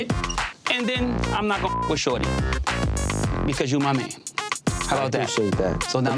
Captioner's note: beep